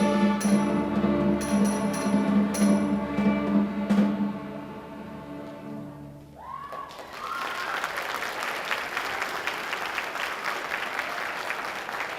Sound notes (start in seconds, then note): 6.5 audience applauding